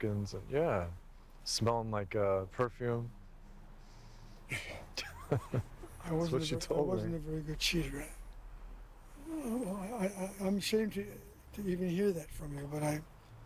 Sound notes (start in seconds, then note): 3.7 sighs; 4.5 chuckles